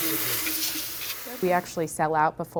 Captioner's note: water running